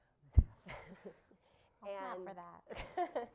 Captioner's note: laughter